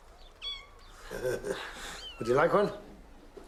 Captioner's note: kitten purring